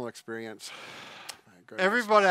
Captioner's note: sighs